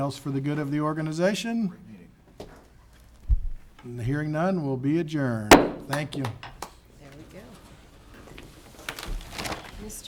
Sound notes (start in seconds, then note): 5.5 gavel taps